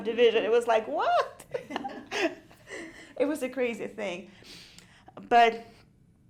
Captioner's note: laughs